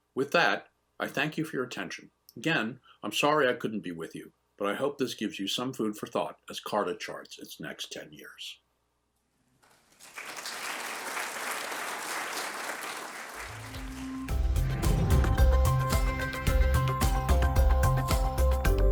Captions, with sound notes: With that, I thank you for your attention. Again, I'm sorry I couldn't be with you. But I hope this gives you some food for thought as CARTA charts its next 10 years. (applause) (relaxing music)